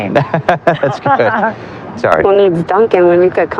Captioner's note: lalaugughingng